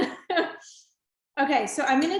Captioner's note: laughing